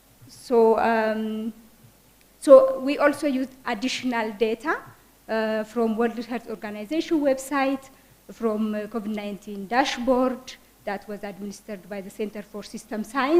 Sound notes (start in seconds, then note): none